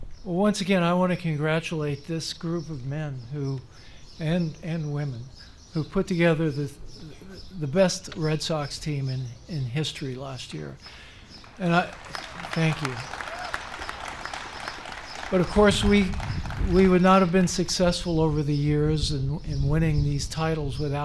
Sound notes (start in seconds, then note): 11.4 applause